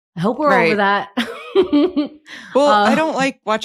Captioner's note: laughs